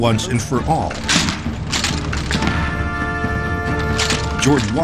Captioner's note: guns rattling